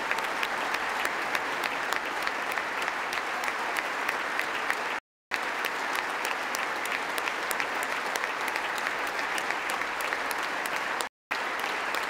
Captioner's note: applause